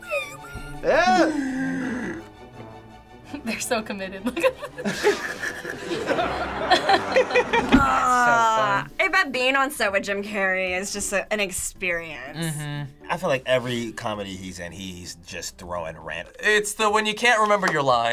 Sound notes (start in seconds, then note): 1.0 gasps; 4.3 both laugh